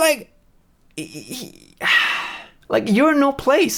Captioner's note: sighs